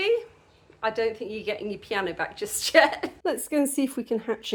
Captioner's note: laughing